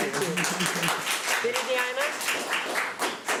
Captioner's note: applause